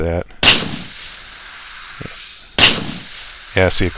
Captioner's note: pop can bursting and fizzing sound